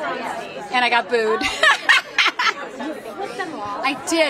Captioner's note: laughs